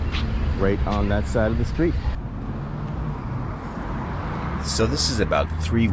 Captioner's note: street noise